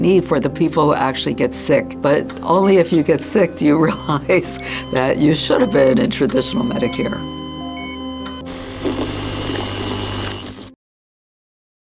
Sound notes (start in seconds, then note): 7.2 piercing bleeping; 8.2 TV crackling